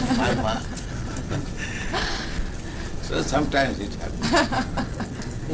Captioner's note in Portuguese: risos